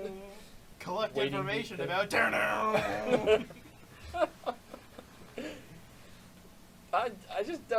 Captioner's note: chuckles